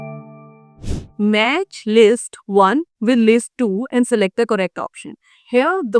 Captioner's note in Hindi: नाक से की जाने वाली आवाज़